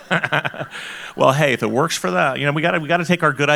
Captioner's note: laughs